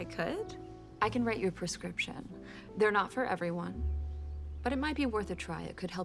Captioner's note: none